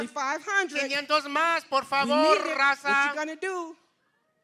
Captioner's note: non-english speech